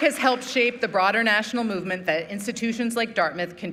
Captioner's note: applause